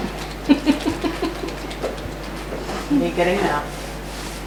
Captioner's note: laughing